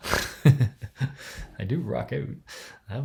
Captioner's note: laughs